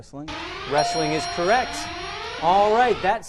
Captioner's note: out of time alarm